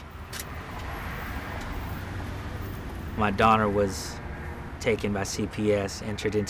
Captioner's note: car sounds